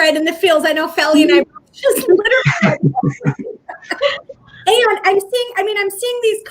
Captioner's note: voice fades